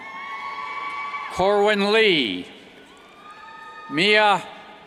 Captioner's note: cheers